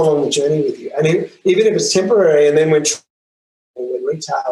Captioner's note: audio distorts